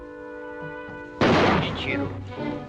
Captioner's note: gunshot